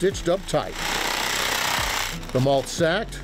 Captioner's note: machine humming